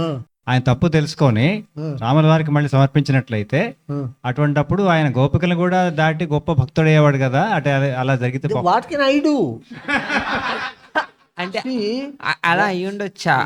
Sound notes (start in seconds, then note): 9.7 laughs